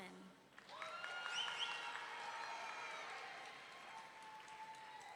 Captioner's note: audience cheering